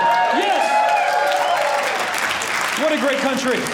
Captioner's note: audience cheering